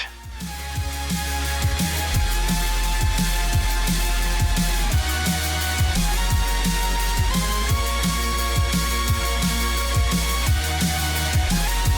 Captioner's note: upbeat Music; crowd Cheering